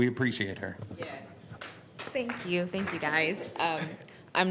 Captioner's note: applause